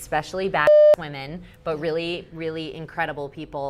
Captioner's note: beep